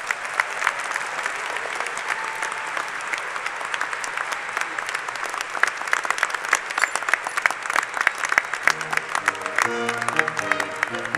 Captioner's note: applause